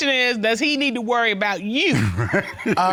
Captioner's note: laughing